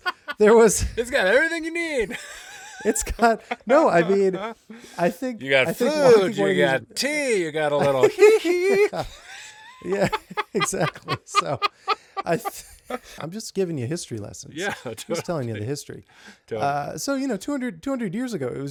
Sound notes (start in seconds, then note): 7.7 laughing